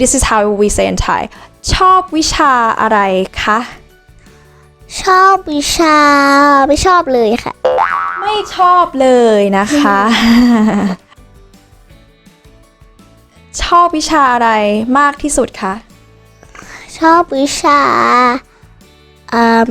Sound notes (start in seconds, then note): 9.7 laughing